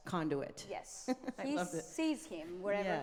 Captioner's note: laughing